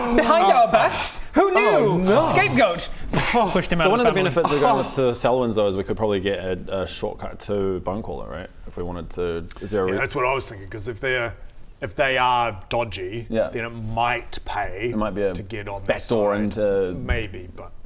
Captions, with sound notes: Behind our backs?! Who knew??? Oh no! Scapegoat! *pssht* pushed him out of the family So one of the benefits of going to the Sylwyns though is we could probably get a shortcut to Bonecaller right? If we wanted to, is there a reason Yeah that's what I was thinking cos if they if they are dodgy yep then it might pay - it might be a back door into - to get on their side maybe but